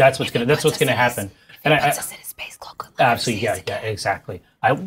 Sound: whisper

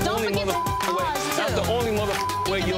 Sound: beeps

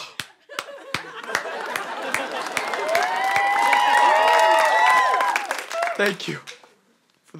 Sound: applause

